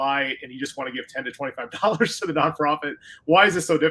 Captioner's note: laughter